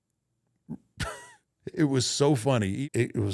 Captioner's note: chuckles